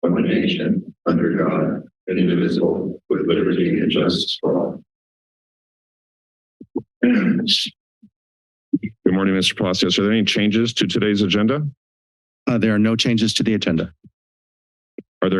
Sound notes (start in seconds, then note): 5.4 silence; 7.0 clearing throat